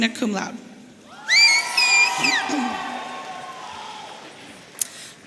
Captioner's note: audience cheering